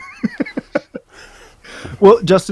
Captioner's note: man chuckles